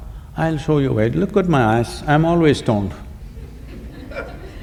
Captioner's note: laughter